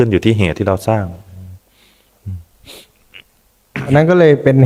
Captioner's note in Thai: เสียงสูดหายใจ